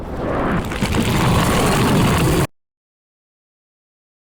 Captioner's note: magic buzzing